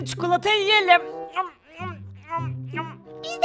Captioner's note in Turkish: Yemek yeme sesi